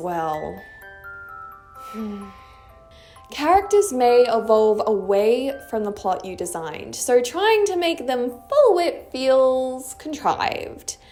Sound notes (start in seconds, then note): 1.8 sigh